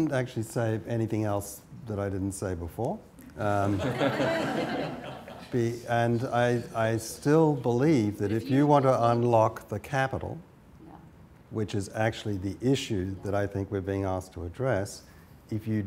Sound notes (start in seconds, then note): 5.4 laughter